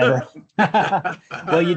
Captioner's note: laughter